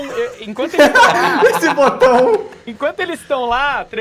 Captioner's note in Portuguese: Risada